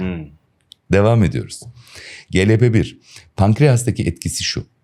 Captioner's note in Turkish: homurdanır